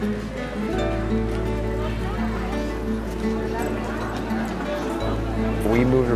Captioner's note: park goers cheerfully playing